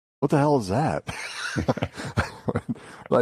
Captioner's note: laughter